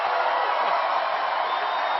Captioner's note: applause